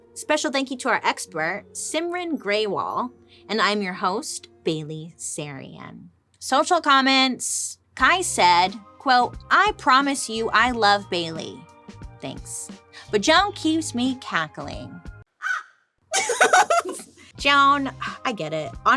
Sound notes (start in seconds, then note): 15.4 bird caws; 16.1 laughs